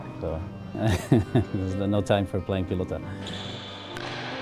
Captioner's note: chuckles